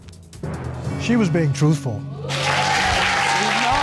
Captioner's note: audience cheers